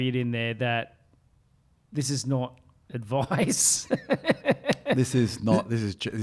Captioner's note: laughs